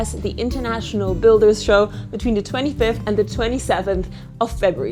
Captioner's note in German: none